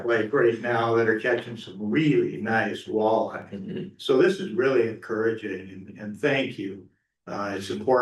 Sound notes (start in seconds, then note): 5.3 clears throat